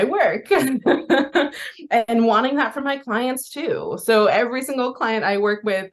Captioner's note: laughs